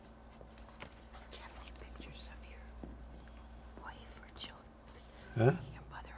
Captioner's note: whispering